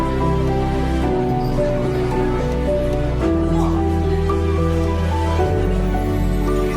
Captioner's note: people chattering; romantic music continues